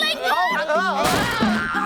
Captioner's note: crashing